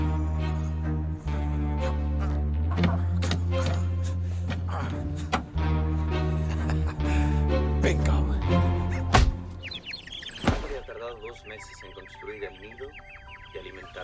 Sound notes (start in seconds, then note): 1.7 grunting; 5.1 clicks; 5.1 laughs; 8.7 birds chirping; 10.3 man speaking Spanish on TV